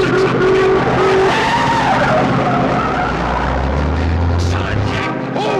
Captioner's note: horn honking; tires screeching